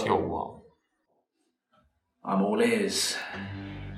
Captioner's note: none